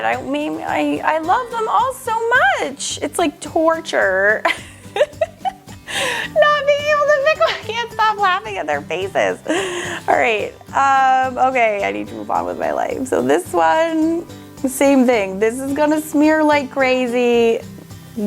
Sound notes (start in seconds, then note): 4.4 laughs